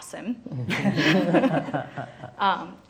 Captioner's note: laughing